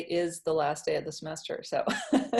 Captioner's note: laughs